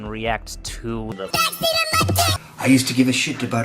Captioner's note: chipmunked